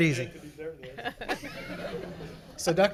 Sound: everyone laughs

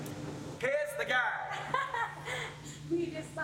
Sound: laughs

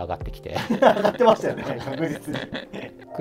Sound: laughing

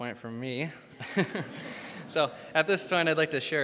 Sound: crowd laughs; laughs

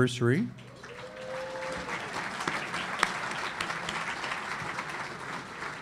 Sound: audience applauding

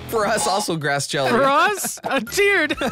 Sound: laughs

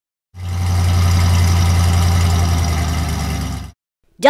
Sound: engine sound

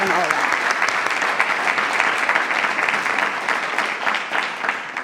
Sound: attendees applauding

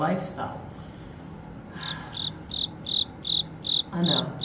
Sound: crickets chirping

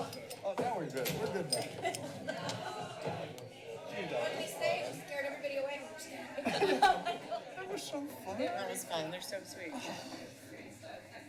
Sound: background conversations

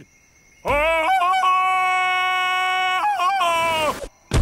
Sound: ululating

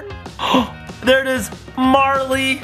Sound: gasps

